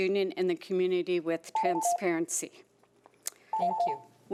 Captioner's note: alarm rings